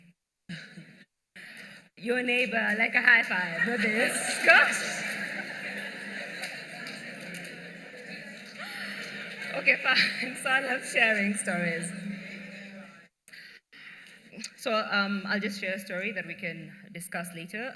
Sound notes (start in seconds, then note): 5.1 laughter